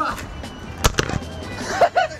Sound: thud!

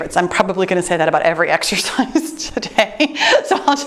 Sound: laughing

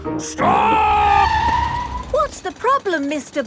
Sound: tires screeching

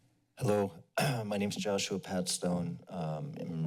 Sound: clears throat

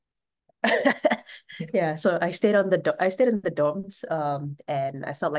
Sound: laughs

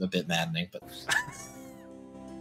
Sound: laughing

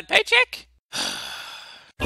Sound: disgruntled Sigh of Disappointment

